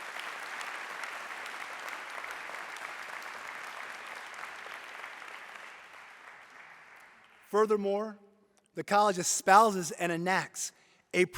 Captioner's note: applause